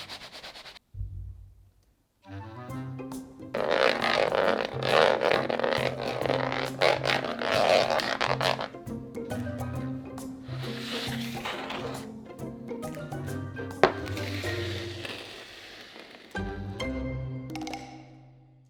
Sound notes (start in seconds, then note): 3.5 scraping pan